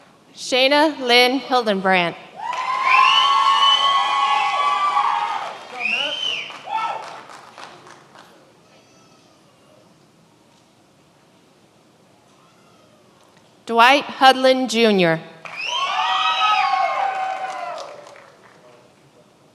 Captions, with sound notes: Shana Lynn Hildenbrand. (many applauding) Dwight Hudlin Jr. (many applauding)